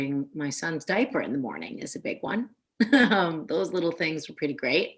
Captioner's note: Gail giggling